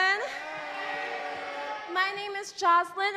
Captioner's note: crowd